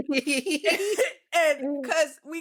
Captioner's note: laughing